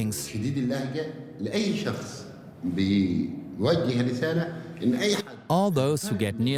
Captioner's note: in Arabic